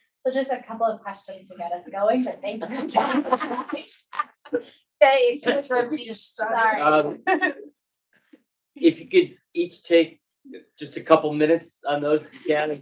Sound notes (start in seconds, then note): 2.7 laughing; 4.8 speaking faintly off mic